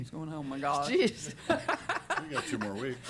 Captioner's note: laughs